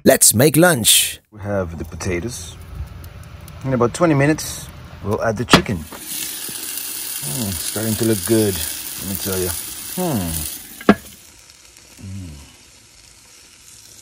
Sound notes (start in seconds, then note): 5.9 chicken sizzling; 10.3 chicken sizzling